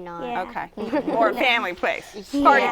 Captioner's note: laughter